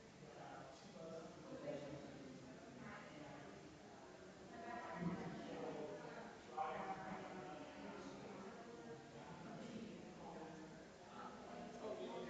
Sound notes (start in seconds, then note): 0.8 people chattering distantly continues